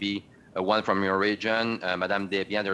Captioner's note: speaking French